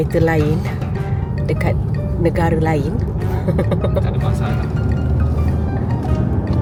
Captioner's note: laugh